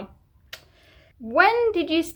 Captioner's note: clicks tongue at the brutal facts